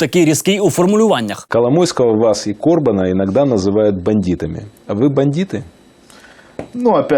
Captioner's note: speak Russian